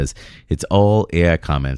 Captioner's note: uh